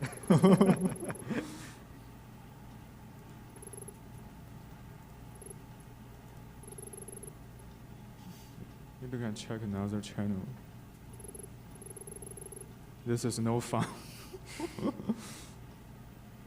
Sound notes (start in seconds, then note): 0.0 laughing; 14.4 laughs